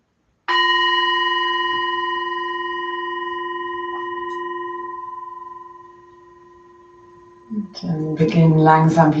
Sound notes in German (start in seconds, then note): 0.4 Klangschale erklingt